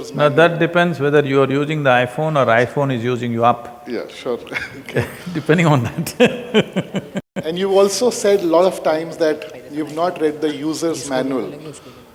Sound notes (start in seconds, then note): 4.0 laughs